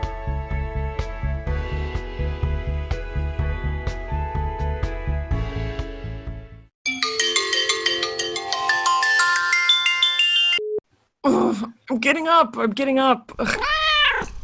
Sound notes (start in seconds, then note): 7.9 alarm; 13.5 meow